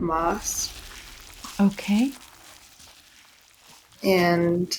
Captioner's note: rustling; flies buzzing